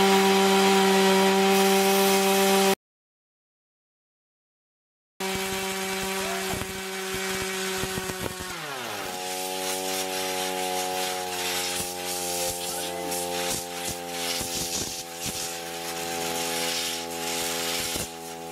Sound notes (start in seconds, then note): 3.1 engine revs up; 11.0 whirring; 15.5 spraying